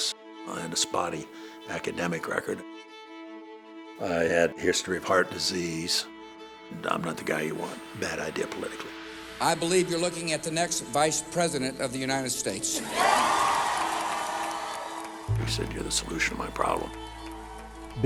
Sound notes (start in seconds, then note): 12.8 applause; 17.9 voiceover